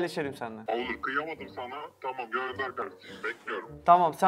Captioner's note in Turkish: Telefon